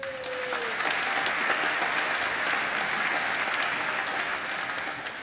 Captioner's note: applause